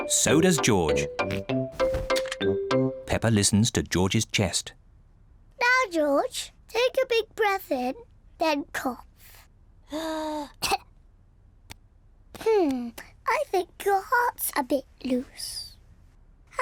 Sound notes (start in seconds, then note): 10.6 breathes deeply and coughs